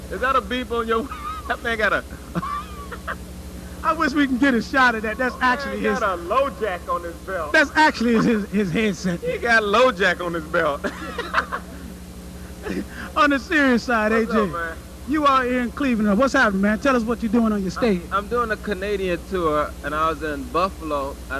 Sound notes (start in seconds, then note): 2.1 laughter